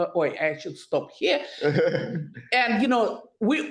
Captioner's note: laughs